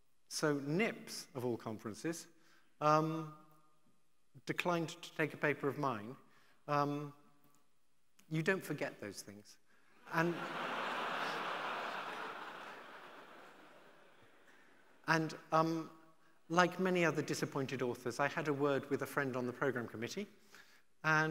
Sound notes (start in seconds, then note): 10.0 audience laughing